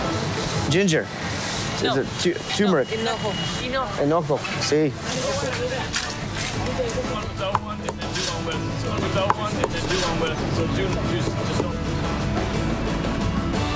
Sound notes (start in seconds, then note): 8.7 speaking In Foreign Language; 12.1 upbeat Music